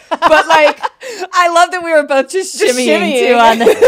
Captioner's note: laughs; laughs